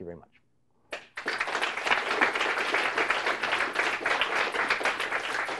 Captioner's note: applauds